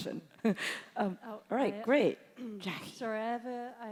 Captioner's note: chuckles